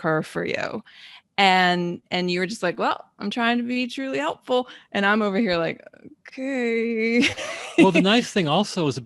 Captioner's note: laughing out loud